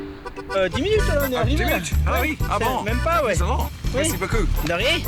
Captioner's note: conversing in french